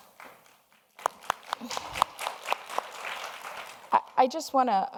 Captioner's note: audience applauds